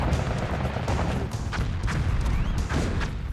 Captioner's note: missiles firing